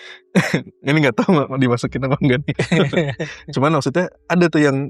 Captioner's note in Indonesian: berdehem